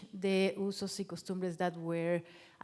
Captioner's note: speaking in foreign language